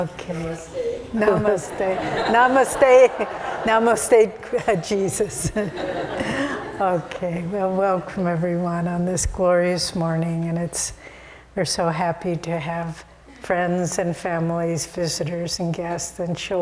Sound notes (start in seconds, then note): 1.2 laughter